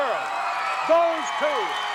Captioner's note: audience cheering